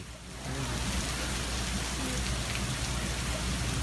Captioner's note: rain falling